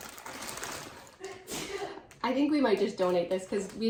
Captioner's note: child sneezing